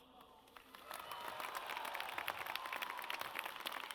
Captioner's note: audience cheers